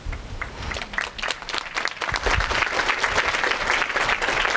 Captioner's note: audience applauding